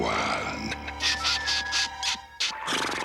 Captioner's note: chuckles